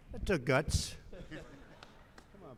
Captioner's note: laughter